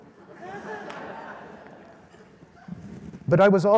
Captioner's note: audience laughs